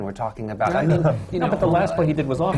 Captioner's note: laughter